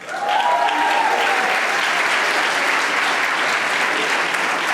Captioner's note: audience applauding